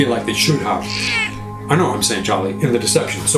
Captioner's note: Charlie meows loudly in background